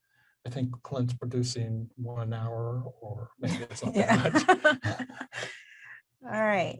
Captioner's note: laughs